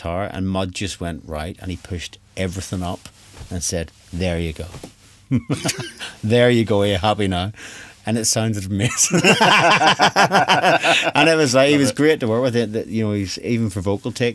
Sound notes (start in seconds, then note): 5.3 laughs; 8.8 both Laugh